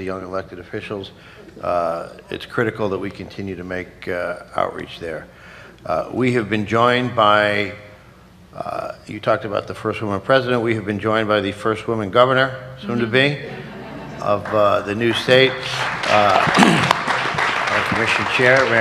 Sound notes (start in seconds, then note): 13.1 laughter; 15.0 applause